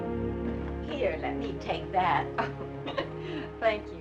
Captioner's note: chuckling